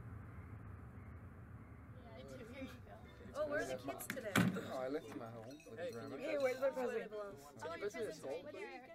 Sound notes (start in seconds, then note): 4.2 door closes